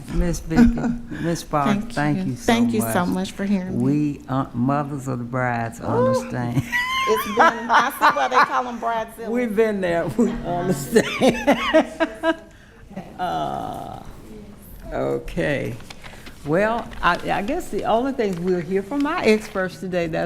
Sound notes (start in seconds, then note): 10.8 laughing